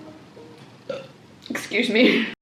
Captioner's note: burp